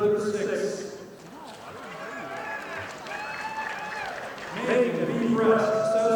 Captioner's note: audience applauding